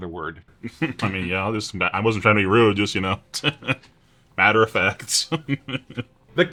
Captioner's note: small laugh